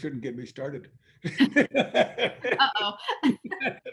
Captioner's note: laughing